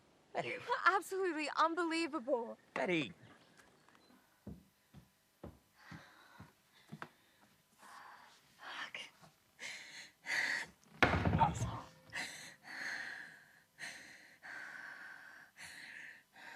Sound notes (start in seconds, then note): 11.0 cupboard banging; 12.0 Betty gasping